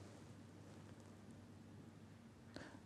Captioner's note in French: none